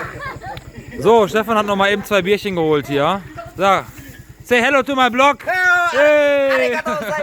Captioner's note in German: gelächter